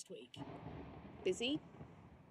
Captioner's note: distant thunder